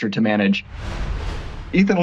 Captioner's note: logo swooshes